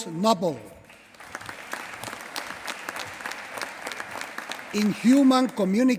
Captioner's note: applause